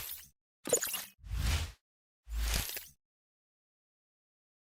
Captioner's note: logo swooshes